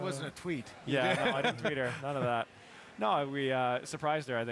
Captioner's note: laughter